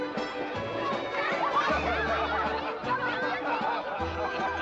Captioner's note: western party music; children yelling excitedly; guests chatting & laughing